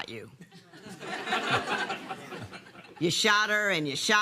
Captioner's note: laughter